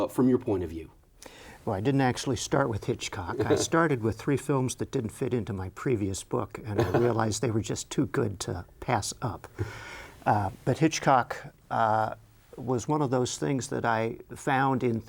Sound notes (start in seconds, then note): 6.8 Jerry chuckles